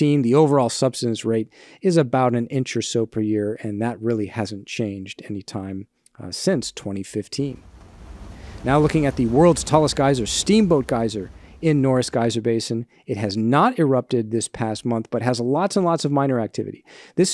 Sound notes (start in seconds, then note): 7.5 geyser roaring